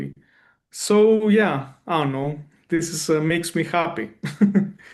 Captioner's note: chuckles